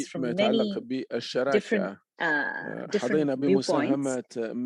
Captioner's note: speaking Arabic